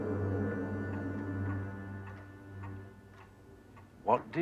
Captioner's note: jam terus berdetak